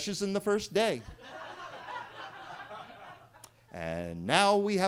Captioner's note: attendees laughing